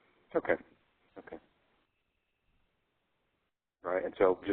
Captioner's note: voiceover